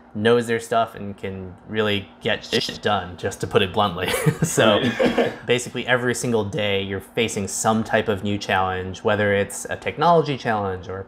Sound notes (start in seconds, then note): 4.1 chuckles